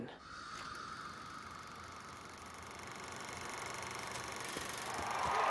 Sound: projector Whirring; crowd Cheering

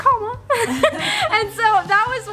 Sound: laughing

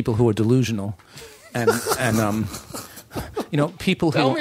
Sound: laughter

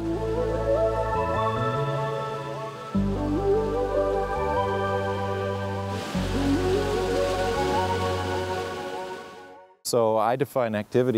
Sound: gushing water

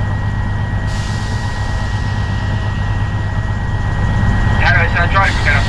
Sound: train whooshes

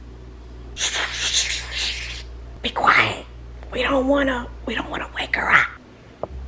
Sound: shushing

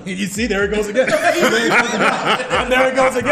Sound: laugh

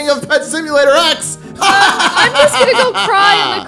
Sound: laughing

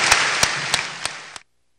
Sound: sustained applause

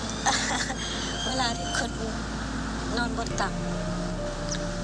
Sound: laughing

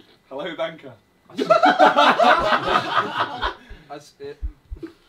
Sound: all laughing; heart beating

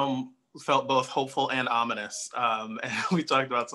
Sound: laughs

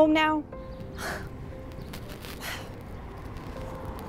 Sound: deep scuffing

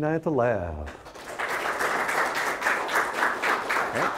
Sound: audience applauding

